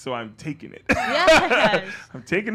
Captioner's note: laughing